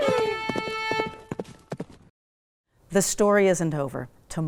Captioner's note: hooves beating